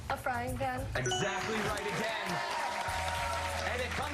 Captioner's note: applause